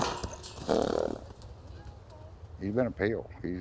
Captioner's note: horse chuffing